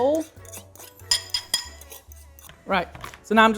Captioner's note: fork scrapes